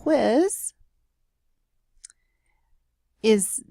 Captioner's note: period of silence